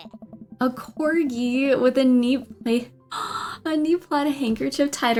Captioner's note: gasps